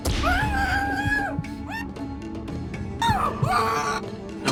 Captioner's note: muffled screaming